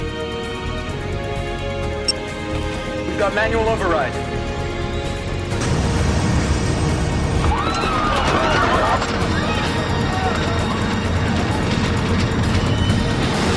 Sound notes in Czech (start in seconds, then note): 2.0 Pípání; 7.4 Křik